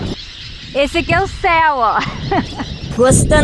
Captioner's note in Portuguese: risos